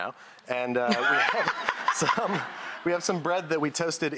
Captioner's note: laughing